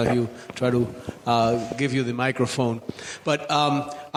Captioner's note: none